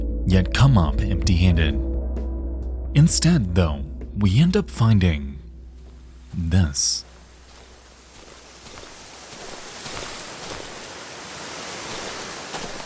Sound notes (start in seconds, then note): 6.9 water splashing